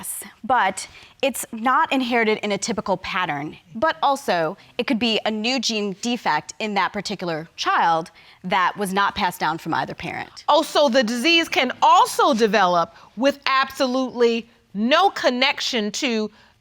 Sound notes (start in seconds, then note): none